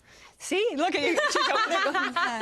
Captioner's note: all laugh